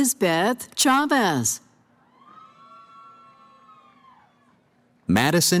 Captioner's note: cheering